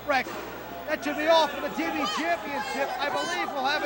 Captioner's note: crowd chatter